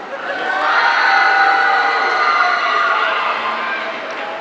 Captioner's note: audience cheering